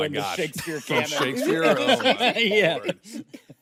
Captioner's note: laughing